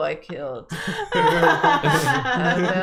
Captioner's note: laughter